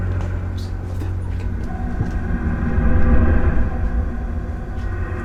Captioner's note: speaks French